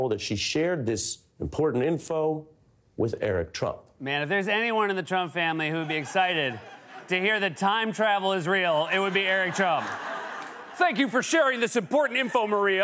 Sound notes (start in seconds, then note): 5.6 laughter; 8.1 laughter and applause